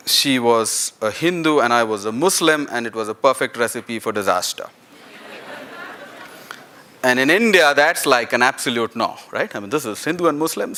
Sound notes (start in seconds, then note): 4.9 laughter